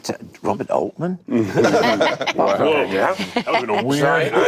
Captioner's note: laughter